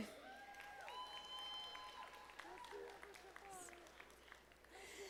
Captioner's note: audience applauding